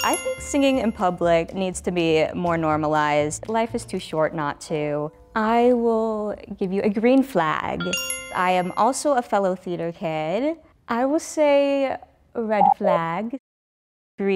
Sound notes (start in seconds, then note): 0.0 bell dings; 7.8 bell dings; 12.8 buzzer sounds